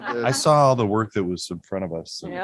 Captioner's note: laughter